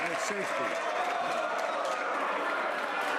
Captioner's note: some Applause